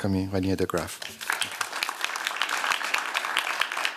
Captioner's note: applause